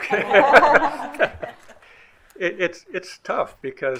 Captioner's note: group laughing